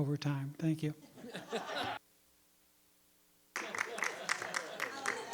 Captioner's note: board members laugh